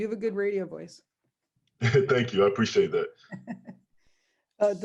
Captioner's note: laughs